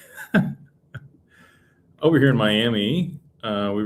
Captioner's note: laughter